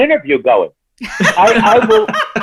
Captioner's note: laughing